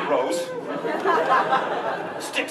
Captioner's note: laughter